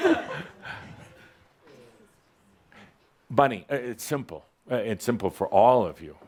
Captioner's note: a couple of chuckles